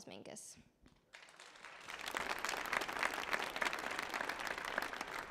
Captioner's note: audience applauding